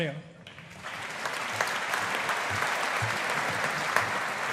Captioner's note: audience applauding